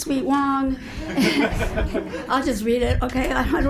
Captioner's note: group laughs